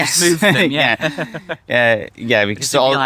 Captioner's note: laughing